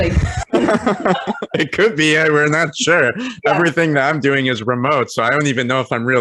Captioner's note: laughing